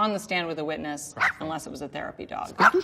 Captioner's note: dog barks